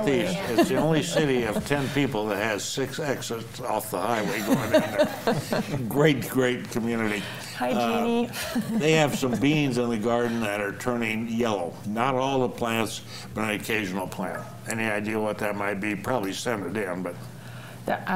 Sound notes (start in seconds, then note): 4.0 panelists laughing; 8.4 chuckles